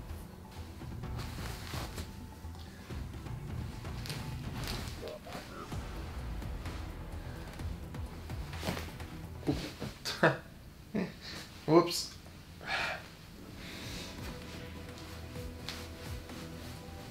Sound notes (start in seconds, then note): 10.9 chuckles; 13.0 soft music